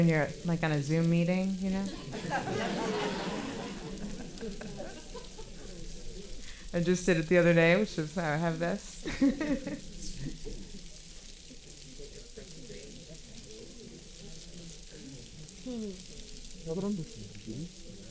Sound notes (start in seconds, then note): 1.8 audience laughing; 5.7 paper crinkling and audience chattering; 9.0 laughing; 10.7 paper crinkling and audience chattering